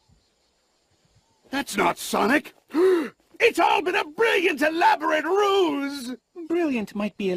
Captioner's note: gasps